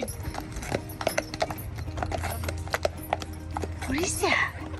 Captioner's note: horses trotting